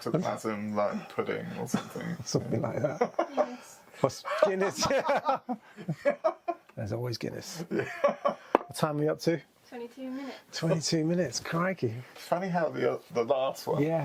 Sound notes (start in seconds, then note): 0.0 laughs; 4.1 laughs